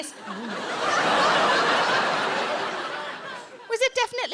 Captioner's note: audience laughing